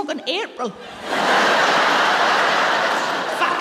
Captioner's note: laughter